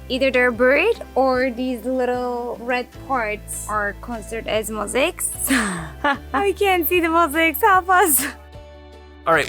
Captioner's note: laughing